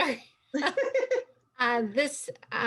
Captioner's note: laughter